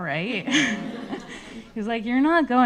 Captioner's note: everybody laughing